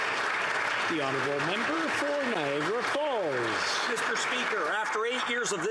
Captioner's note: applause